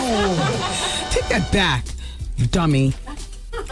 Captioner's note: laughing